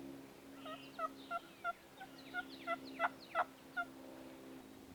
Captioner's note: turkey yelps